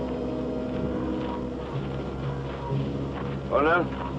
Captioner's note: footsteps